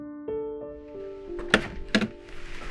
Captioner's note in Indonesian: Pintu mobil terbuka